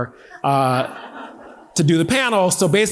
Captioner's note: audience laughing